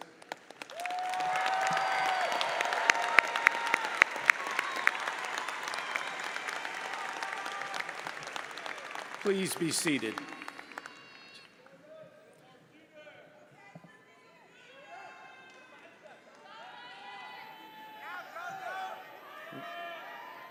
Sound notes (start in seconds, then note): 0.3 audience cheers and applauds; 11.9 audience members murmuring